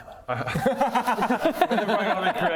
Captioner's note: groundbreaking laugh